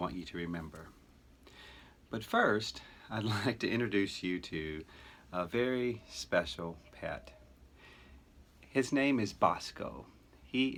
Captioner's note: chuckle